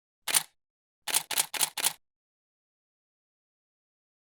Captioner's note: typewriter clicking